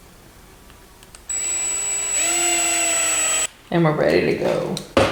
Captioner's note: drill whirs